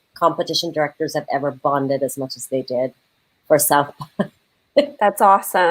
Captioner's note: laughs